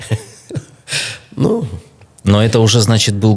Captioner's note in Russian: смех